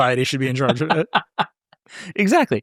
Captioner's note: laughing